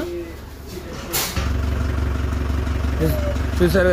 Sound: vehicle sound

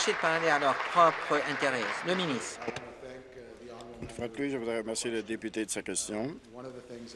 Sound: applause

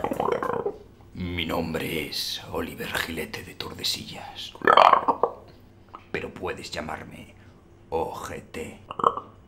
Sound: alien noises

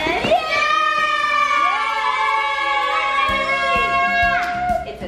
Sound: everyone cheering

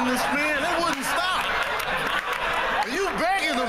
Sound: laughter and applause

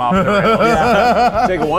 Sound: laughter

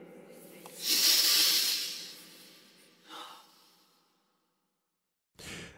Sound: inhales greedily

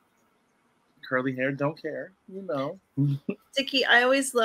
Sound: giggles

